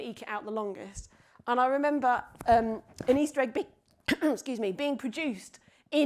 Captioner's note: clears throat